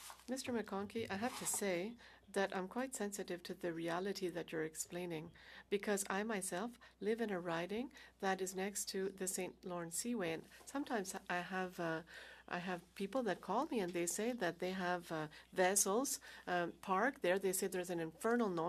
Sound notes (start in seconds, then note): 4.9 speaking French